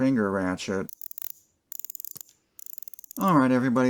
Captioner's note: ratchet sounds